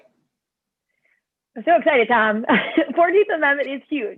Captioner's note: laughter